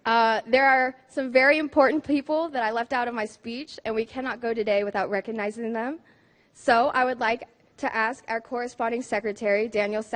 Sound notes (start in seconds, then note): none